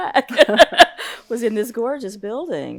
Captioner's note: laughs